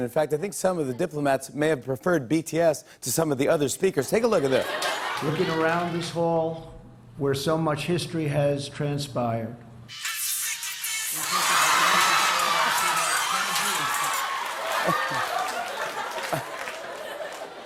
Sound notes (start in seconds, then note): 13.9 laughter and applause; 14.5 chuckles